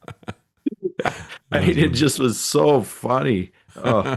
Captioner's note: laughing